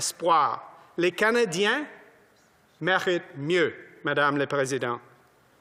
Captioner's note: speaking French